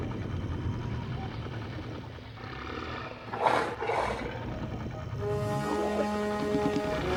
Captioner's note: sniffing